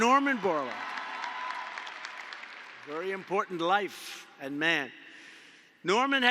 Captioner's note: applause